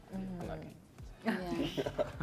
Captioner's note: laughter